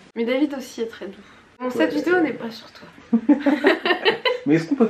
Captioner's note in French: rires